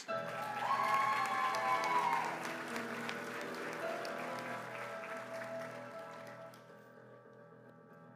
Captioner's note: applause